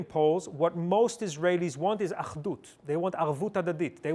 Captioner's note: hebrew